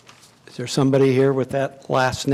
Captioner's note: none